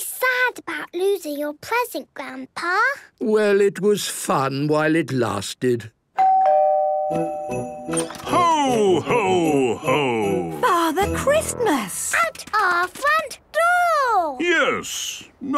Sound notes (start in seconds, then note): 6.2 doorbell ringing